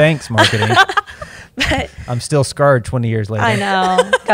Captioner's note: laughter